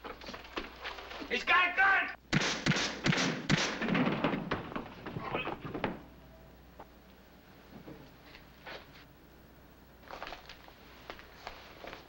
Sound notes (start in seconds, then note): 2.3 gun shots